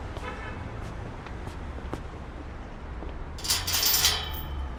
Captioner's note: distant horn honks; gate clinks